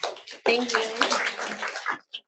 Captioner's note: audience applauds